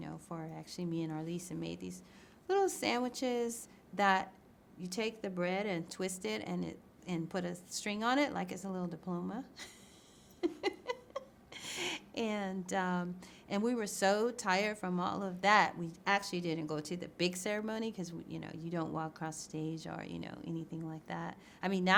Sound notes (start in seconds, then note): 10.4 laughs